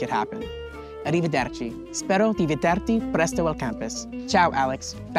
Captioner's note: speaking Italian